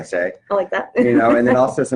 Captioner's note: chuckles